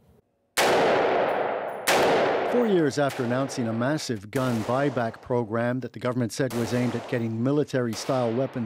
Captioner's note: gun firing